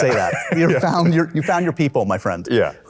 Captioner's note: laughs